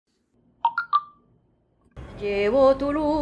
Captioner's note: message alert tone